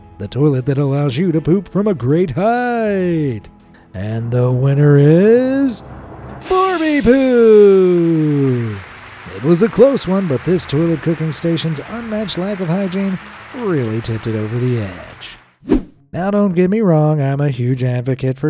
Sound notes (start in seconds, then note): 5.7 suspenseful drum roll; 8.8 audience applauds